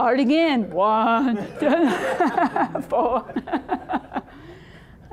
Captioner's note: all laughing